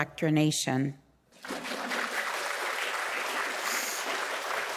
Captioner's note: audience applauding